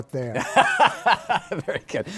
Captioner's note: laughs